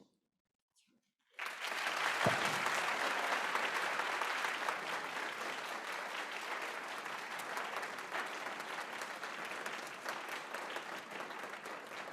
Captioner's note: applause